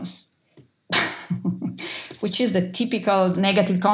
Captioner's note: laugh